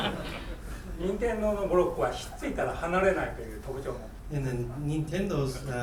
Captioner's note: students laughing; speaking in foreign language